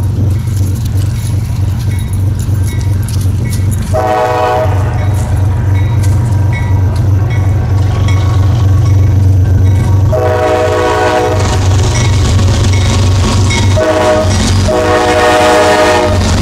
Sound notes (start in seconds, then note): 3.9 horn; 10.1 horn; 14.6 horn